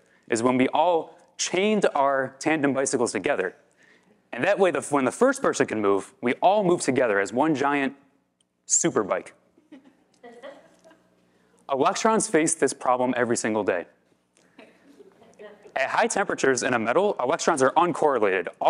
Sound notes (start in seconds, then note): 9.5 audience laugh; 14.6 audience chuckle